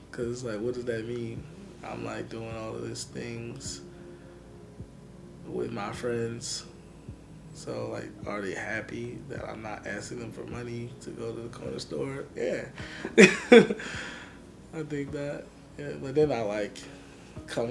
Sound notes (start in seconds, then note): 12.8 laughs